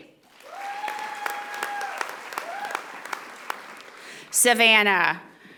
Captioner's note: audience applauding